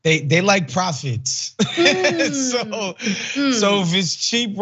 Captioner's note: laugh